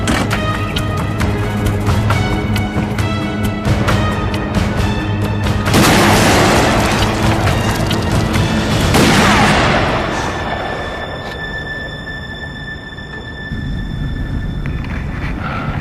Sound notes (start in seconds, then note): 0.0 dramatic music; 6.9 gunshot